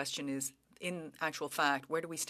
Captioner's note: speaking French